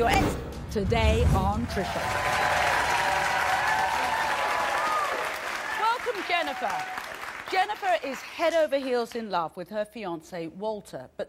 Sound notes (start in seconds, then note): 1.6 applause